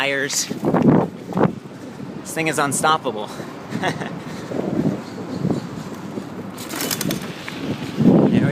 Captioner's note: wind noise